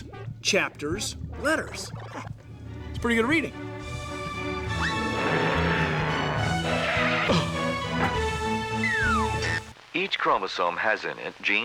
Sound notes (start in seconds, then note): 4.4 waltz music plays; 6.3 tires screech